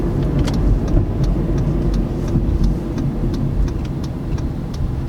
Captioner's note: turn signal clicking